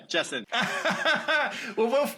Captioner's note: laughing